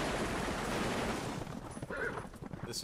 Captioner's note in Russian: стук копыт и ржание